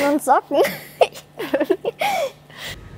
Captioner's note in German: Kichern